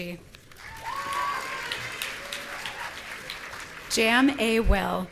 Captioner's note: audience cheering